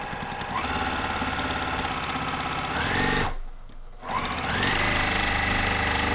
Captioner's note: sewing machine hums; sewing machine accelerating